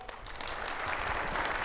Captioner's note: audience clapping